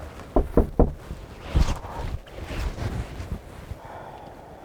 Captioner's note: knocking on door